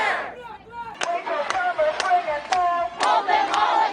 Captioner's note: muffled yelling on megaphone; crowd